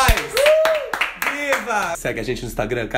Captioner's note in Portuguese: palmas